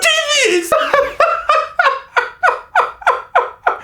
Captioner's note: laughing